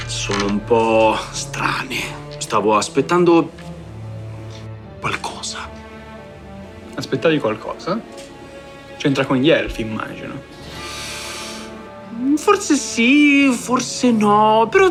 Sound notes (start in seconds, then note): 5.0 whispering